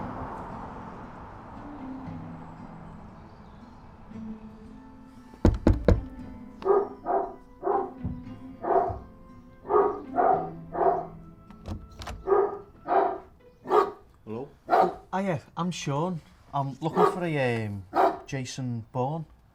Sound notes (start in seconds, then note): 5.4 Sean knocks; 6.5 muffled aggressive barks